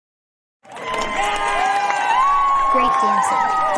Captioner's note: applause and cheering